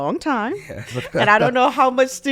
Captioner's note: chuckles